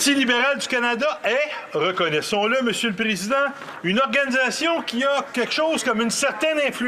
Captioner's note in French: voix de l'interprète